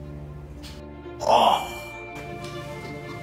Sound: ryan expresses a sound of interest

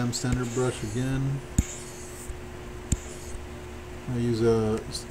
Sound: computer mouse tapping

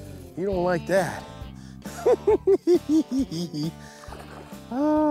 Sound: giggles

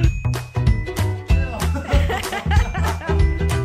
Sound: laughter

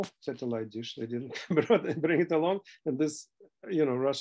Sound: laughter

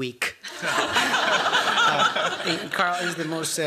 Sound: laughter

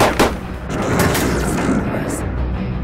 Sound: shouting; shots firing; elevator shuts off

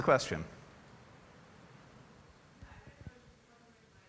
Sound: off mike

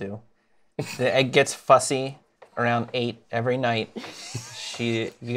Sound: laughs

